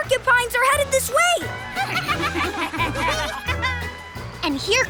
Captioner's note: giggling